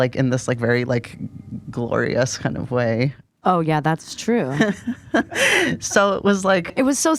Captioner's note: laughter and gasps